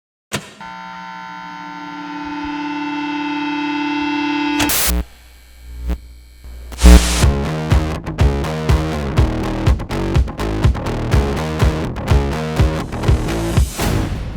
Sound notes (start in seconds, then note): 0.3 switches clunk; 1.2 machine buzzes; 2.2 signal blares; 4.5 logo crackles; 6.8 upbeat music